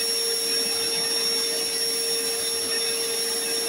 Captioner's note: vacuuming